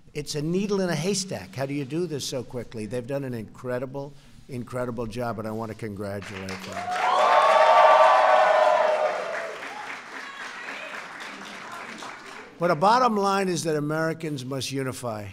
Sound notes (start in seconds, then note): 6.2 applause